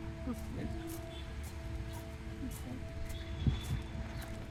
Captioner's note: walking footsteps sound effect